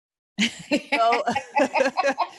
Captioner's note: laughter